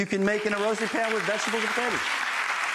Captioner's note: audience applauds